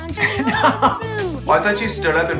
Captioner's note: laughs